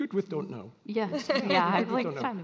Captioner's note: all laughing